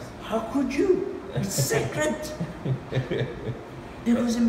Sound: chuckles

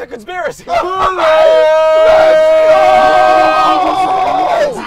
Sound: wailing, yelling

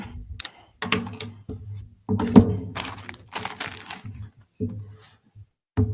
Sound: microphone thumping and booming

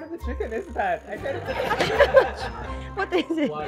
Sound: laughs

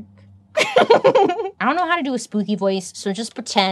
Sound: laughs

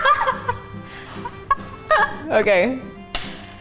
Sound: laughs

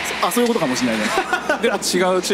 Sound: laughs

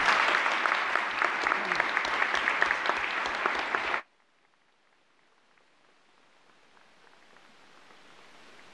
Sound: applause

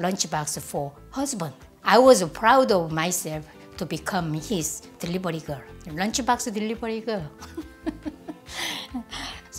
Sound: laughs

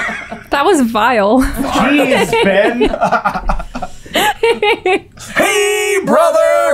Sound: laughter

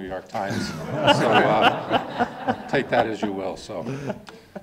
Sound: people laugh

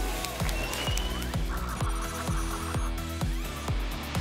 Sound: whoosh; spinning sounds

